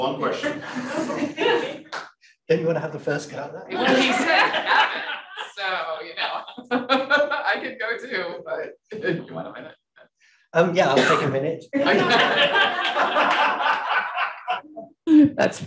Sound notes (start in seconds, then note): 1.4 audience chuckle; 11.8 audience laughing